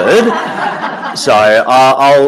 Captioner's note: audience laughing